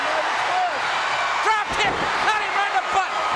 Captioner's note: audience cheering